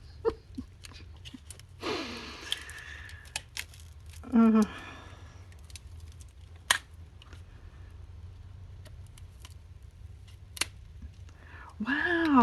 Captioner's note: laughs